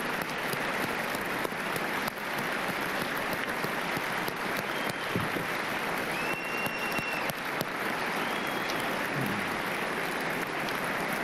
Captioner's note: applause and cheers